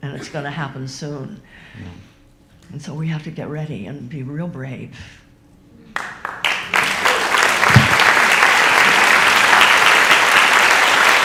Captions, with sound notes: and it's gonna happen soon. And so we have to get ready and be real brave. (audience applauds)